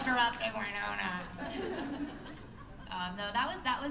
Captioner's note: laughter